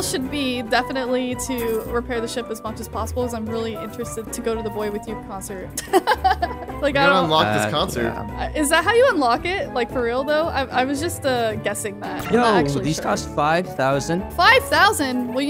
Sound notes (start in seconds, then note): 5.8 laughing happily